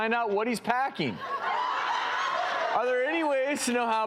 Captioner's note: audience whooping